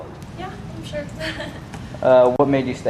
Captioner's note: chuckled